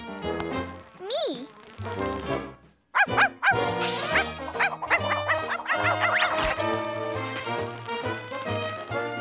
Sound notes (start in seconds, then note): 2.9 barking